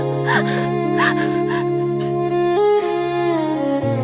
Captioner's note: crying